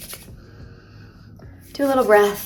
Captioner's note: hands rubbing; breathing in